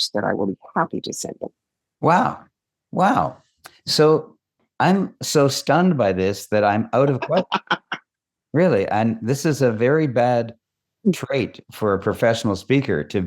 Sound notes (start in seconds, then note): 6.4 laughs